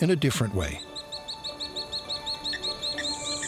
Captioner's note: bird chirping